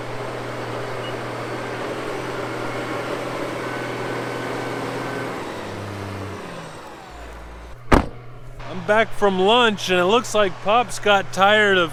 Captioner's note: tractor sound